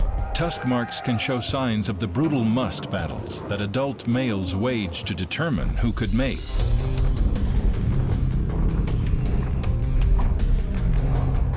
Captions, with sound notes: Tusk marks can show signs of the brutal musth battles that adult males waged to determine who could mate. [snorting]